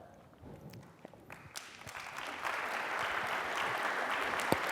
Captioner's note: applause